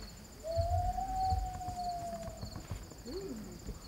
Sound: loon Call

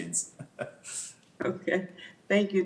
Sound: chuckles

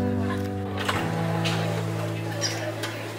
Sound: open door noises

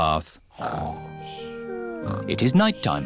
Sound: snoring

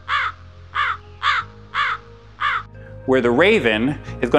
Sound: kaw kaw kaw

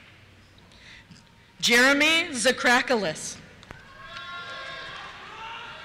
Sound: cheers

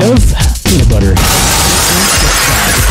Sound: smashing glass

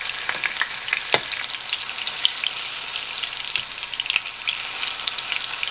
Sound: sizzle

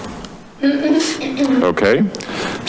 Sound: clears throat

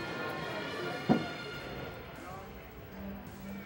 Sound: none

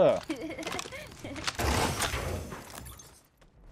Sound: laughs

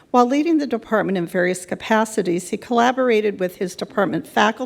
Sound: none

